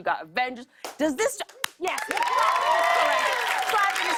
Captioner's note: applause